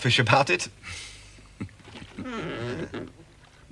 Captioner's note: jerome chuckling